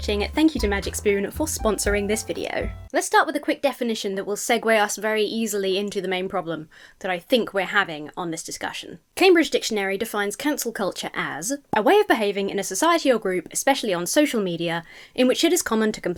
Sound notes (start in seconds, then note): none